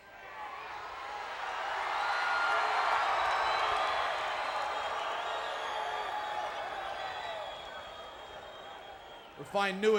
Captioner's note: applause